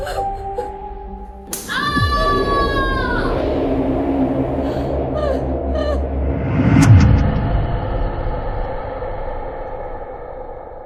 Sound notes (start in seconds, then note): 1.6 hard hit, woman screams